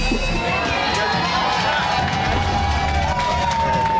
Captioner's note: crowd cheering